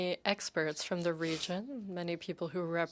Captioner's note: speaking French